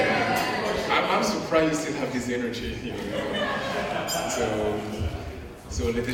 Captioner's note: laughing